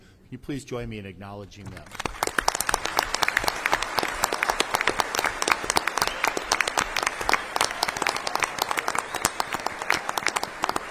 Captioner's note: applause